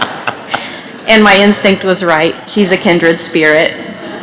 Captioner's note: laughter